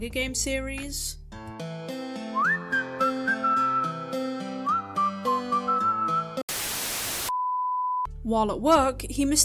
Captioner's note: static